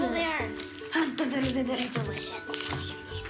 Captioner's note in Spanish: tartamudea rápidamente